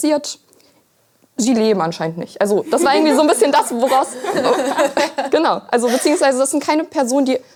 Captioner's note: laughter